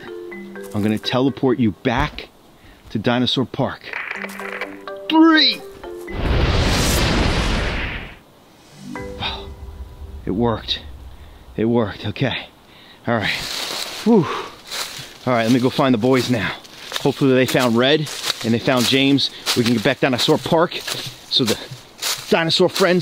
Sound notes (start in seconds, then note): 3.5 static crackles; 6.0 whooshing static sound